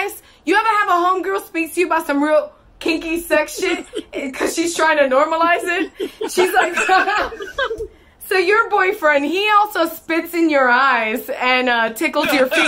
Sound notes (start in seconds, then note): 7.4 laughs